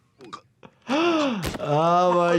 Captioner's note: doctor gasps